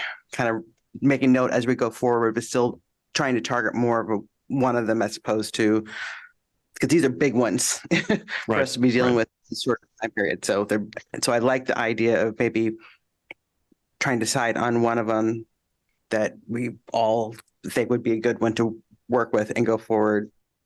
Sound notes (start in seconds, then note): 7.7 laughter